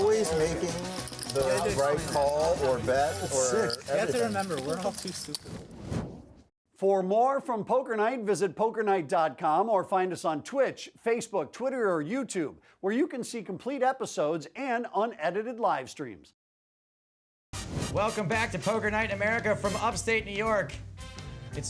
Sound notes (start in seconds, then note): 7.0 voiceover